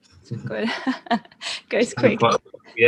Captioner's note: laughing